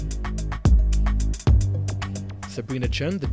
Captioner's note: voiceover